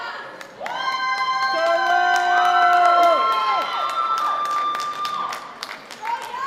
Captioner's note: audience applause; audience cheers